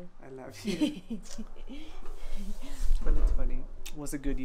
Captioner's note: laughs